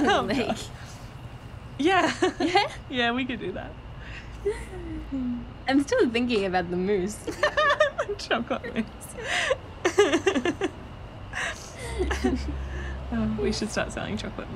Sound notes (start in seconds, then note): 1.9 laughing; 9.7 laughing; 9.8 both laughing